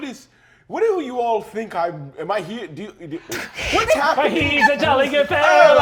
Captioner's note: stammering